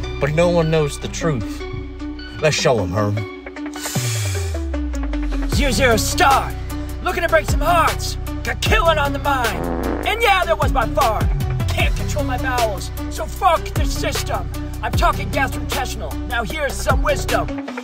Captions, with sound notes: but no one knows the truth. Let’s show ‘em Herm. Zero - zero - start. Looking to break some hearts. Got killing on the mind. (fart noise) And yeah that was my fart. Can't control my bowels so fuck the system. I'm talking gastrointestinal, now here's some wisdom.